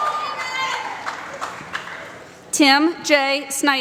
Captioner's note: applause